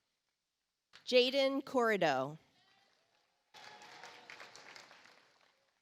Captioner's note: audience applauds